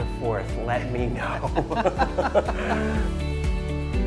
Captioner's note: laughing; lighthearted music